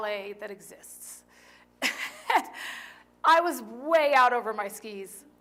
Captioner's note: laughter